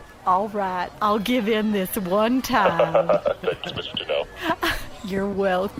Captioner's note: laughing